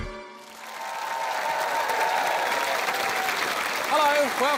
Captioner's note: applause